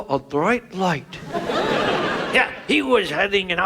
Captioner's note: audience laughs